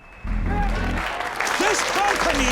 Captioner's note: all cheering